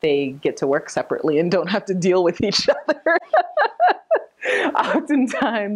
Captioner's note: laughing